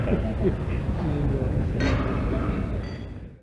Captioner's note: clinking of glasses